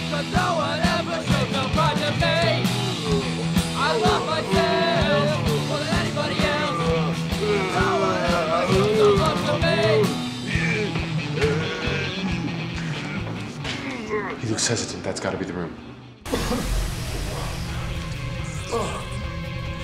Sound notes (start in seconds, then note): 10.6 zombie groaning; 16.2 Ciez coughing